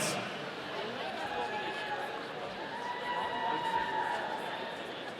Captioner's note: audience cheering